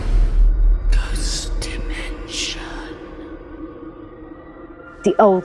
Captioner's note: ghostly Voice